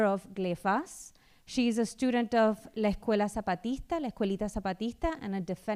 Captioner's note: speaking spanish